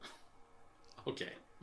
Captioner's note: laughing